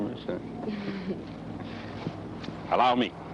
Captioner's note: laughing